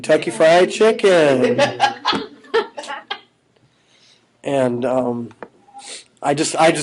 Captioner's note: laughing; laughing